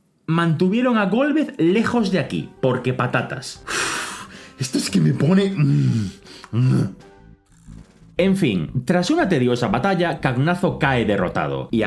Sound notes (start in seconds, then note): 3.6 huff; 4.4 angry spanish noises